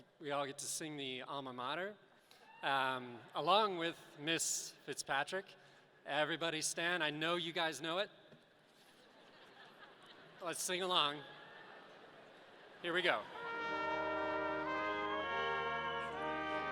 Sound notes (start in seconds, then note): 9.2 audience laughing